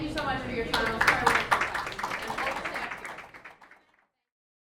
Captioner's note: applause